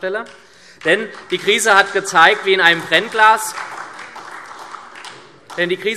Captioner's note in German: Beifall SPD und Freie Demokraten